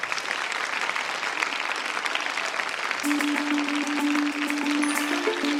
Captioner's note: applause